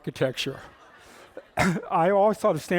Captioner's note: laughter